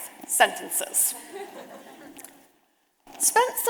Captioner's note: audience laughing